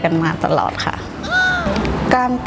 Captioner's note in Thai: เสียงเอฟเฟกต์